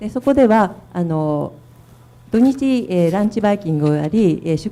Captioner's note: speaking foreign language